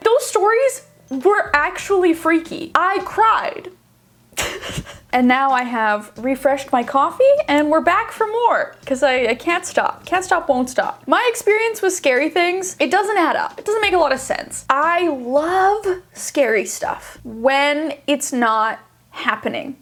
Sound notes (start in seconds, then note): 4.4 laughing